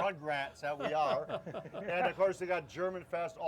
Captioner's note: laughing